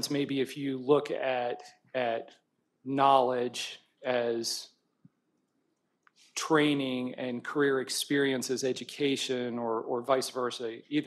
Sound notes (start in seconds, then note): none